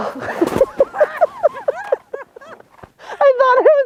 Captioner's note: laughing